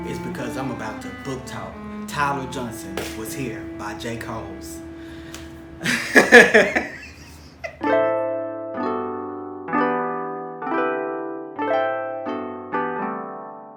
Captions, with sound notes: It's because I'm about to book talk Tyler Johnson Was Here by Jay Coles. (man laughing) (soothing music)